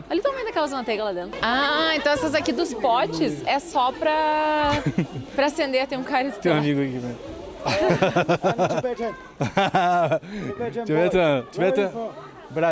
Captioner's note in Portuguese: risadas